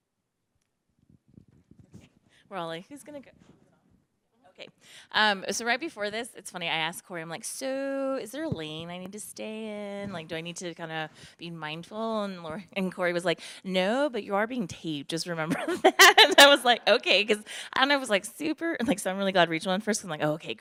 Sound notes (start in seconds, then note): 15.6 laughs